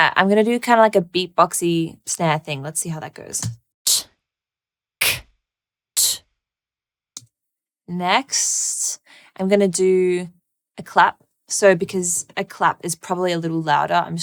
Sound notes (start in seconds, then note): 3.8 beatboxing